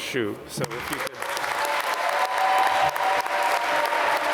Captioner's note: applause